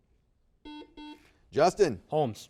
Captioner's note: buzzer beeps